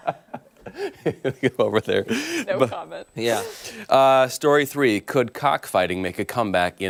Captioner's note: laughter